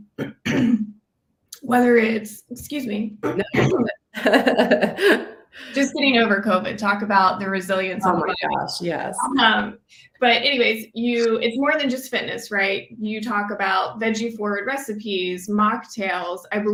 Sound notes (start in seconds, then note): 0.1 clears throat; 3.2 clears throat; 3.2 laughs